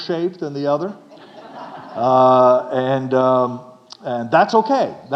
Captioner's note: audience laughing